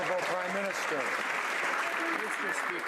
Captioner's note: some Applause